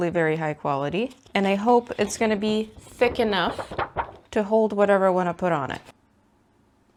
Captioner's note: sheet of paper goes wubba wubba